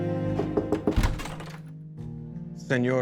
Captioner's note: knocking on door